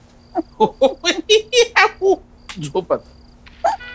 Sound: mocking her laughter

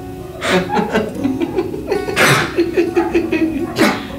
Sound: laughs

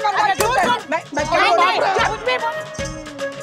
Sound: shouting

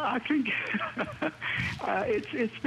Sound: laughter

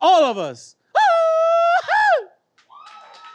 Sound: grito; audience cheers and applauds

